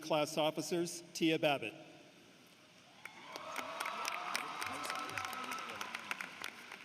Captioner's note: applause